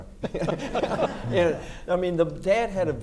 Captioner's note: audience laughs